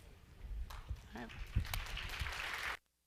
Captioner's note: audience applauding